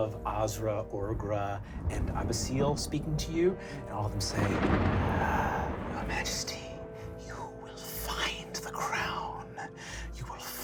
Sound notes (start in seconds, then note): none